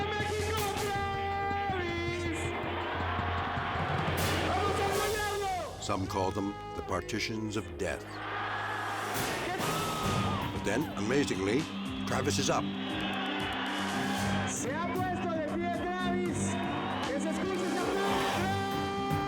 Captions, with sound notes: (announcer shouts in Spanish) (crowd cheering) Some call them the partitions of death. (crowd chanting) But then, amazingly, Travis is up. (announcer shouts in Spanish)